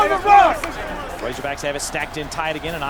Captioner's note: voiceover